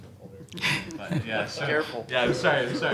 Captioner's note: audience laughing